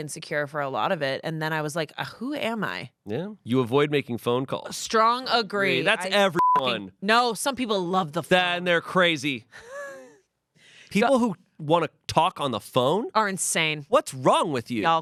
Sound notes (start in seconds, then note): 6.2 beep; 9.5 Amanda laughs